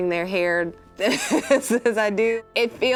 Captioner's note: laughs